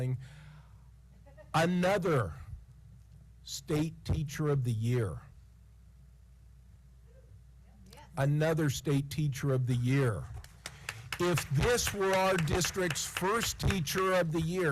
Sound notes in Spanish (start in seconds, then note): 10.4 aplausos